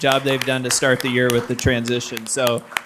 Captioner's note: crowd clapping